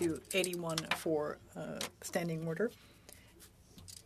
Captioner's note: speaking French